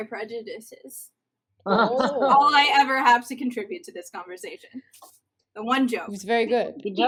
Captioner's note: on-the-nose chortling